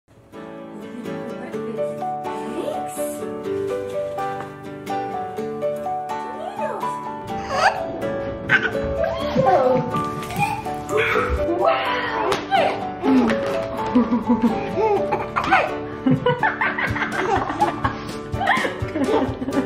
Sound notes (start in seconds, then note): 7.7 babbling; 15.8 laughing